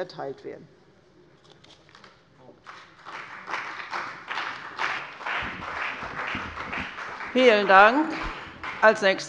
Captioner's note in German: Beifall bei der CDU und dem BÜNDNIS 90/DIE GRÜNEN